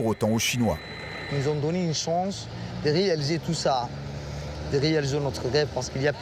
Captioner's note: speaking foreign language